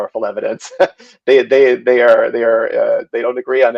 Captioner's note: laughs